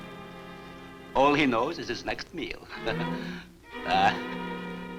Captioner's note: chuckles